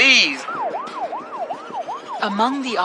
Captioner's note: siren wailing